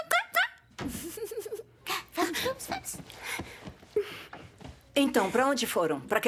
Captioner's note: laughs